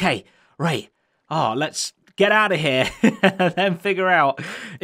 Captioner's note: chuckles